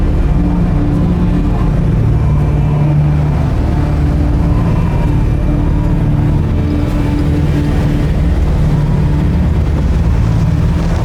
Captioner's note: wind gushing